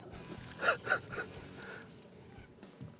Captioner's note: laughs